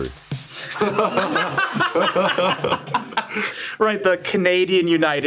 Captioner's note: group laughing